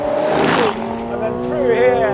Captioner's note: car revving